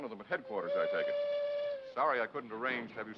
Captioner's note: horn blowing